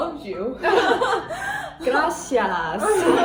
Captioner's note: laugh